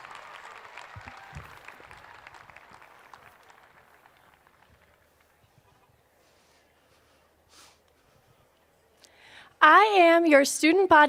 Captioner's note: cheers and applause